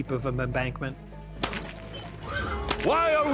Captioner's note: tapping reins